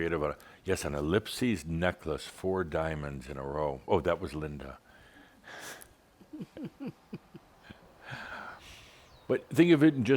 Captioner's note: they chuckle